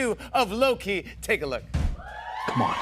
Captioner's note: cheers and applause